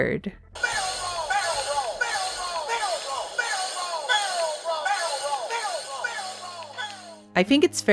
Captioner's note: Peppy repeatedly yelling "Barrel roll!"